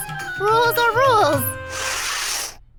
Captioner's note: sniffs